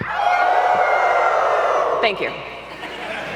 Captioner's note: audience howls like a wolf